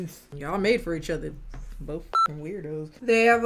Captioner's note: beep